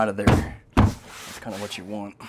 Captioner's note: banging